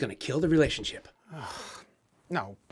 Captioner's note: Don groans